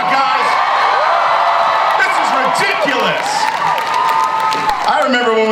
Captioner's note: audience cheers